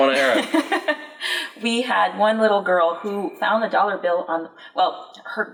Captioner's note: laughs